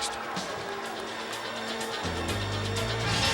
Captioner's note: crowd cheering